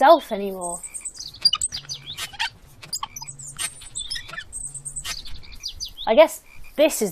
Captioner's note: lawnmower creaks as it is wheeled along